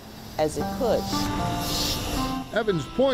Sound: bus rumbles

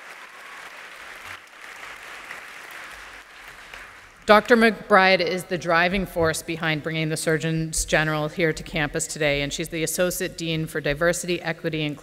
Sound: applause and cheers

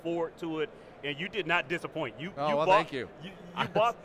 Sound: laughs

